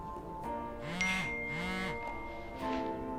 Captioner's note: phone vibrating